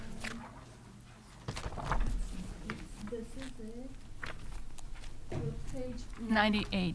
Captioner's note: pages rustling